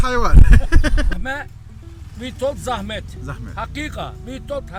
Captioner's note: traffic